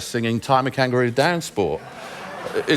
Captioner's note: laughter